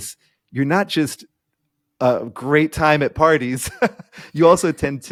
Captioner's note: laughing